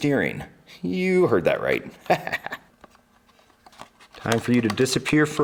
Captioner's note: chuckles